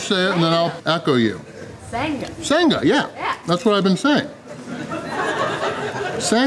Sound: crowd laughter

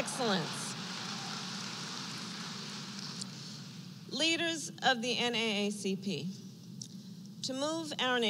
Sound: applause

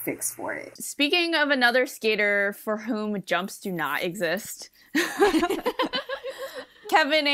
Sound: hosts laugh

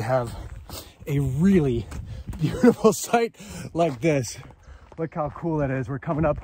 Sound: chuckles

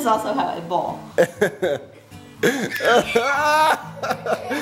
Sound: laughs

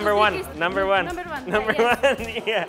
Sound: laughing

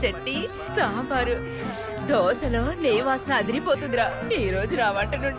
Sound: sniffs

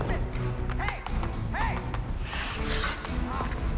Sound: banging stick on the ice

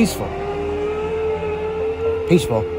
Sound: parasaurolophus screeching

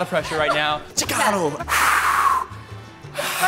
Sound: yells; breathing heavily

